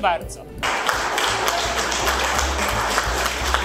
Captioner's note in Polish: Aplauz